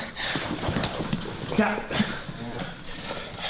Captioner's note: voiceover